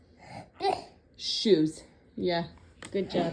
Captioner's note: vocalizing